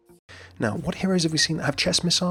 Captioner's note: voiceover